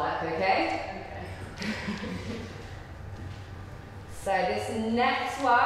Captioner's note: they giggle